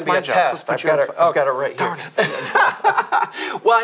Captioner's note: laughing